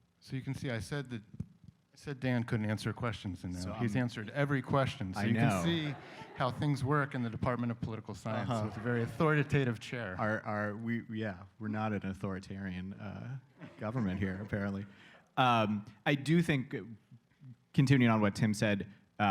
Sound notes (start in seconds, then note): 5.3 laughter